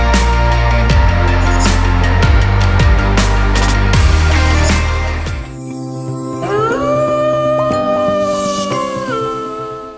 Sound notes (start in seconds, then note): 6.5 wolf howling; 7.3 soft music